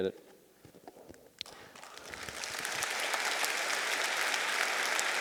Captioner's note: audience applauding